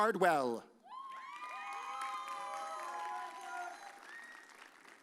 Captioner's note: audience cheers